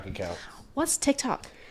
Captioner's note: blows raspberry